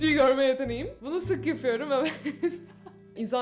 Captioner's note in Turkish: güler